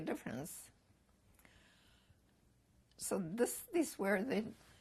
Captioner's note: pauses for 3 seconds